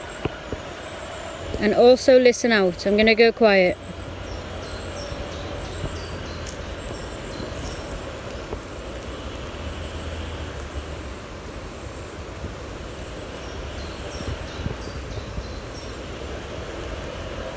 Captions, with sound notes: And also listen out, I'm gonna go quiet. (birds chirping) (leaves rustling) (birds chirping)